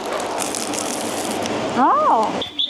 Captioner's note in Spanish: crujido